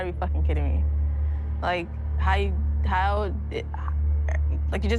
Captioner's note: stammers